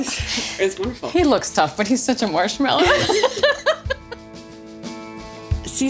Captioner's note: laughs